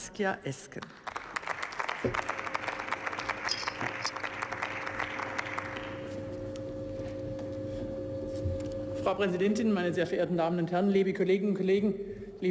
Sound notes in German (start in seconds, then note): 2.6 Beifall